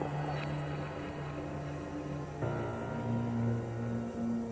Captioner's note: insects chirping